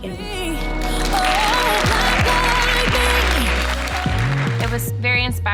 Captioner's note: everyone applauding